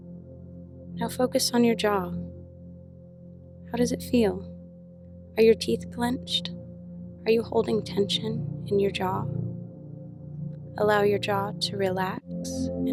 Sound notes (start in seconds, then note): none